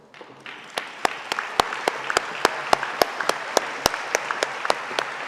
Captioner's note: audience applauding